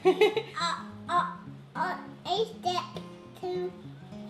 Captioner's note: baby babbling